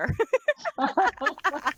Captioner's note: laughs